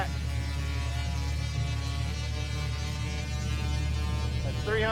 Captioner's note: electricity sparks